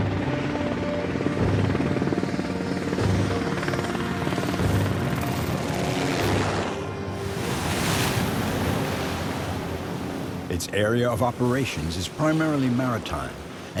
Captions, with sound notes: (waves crashing) Its area of operations is primarily maritime,